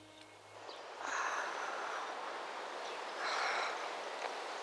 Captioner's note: sighing